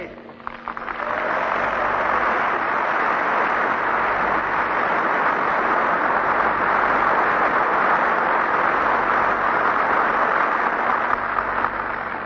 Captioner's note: applause